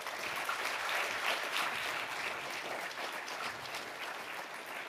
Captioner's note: audience applauding